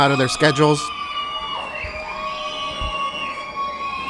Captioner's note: loud cheering